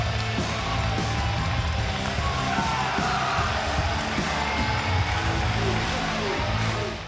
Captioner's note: rock music continues; audience cheering and applauding